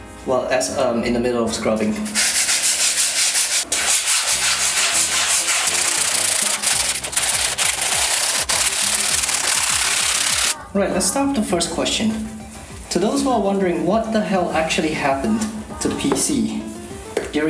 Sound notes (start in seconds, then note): 2.1 scrubbing noises; 5.6 sped up scrubbing noises